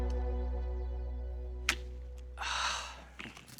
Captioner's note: gun clicks; both sigh